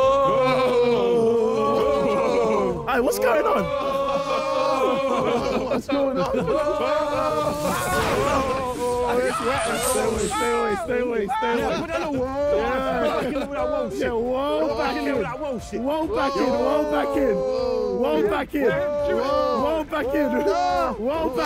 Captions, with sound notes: - [spooky ghost noises] - Hey, what's going on? [laser beam sound effect] [screaming] - Stay away. Stay away. Stay away. Stay away. - Get back in with that "whoa" sh*t. - "Whoa" back in, "whoa" back in. "Whoa" back in, "whoa" back in.